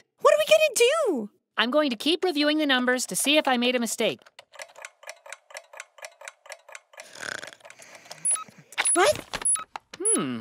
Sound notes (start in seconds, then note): 4.4 clock ticking; 7.0 snoring